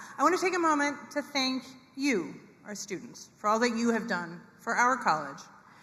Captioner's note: none